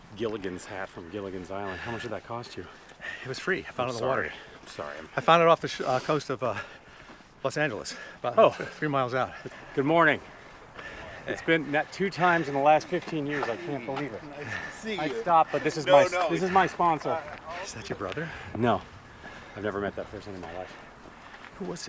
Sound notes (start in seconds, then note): 17.5 man speaks faintly